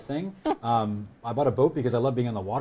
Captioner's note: laughs